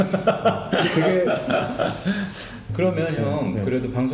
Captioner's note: laughing